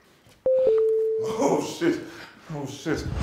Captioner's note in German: Sanfter Klang